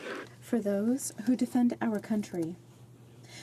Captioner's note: speaking French